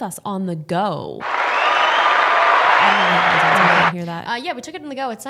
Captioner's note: audience cheering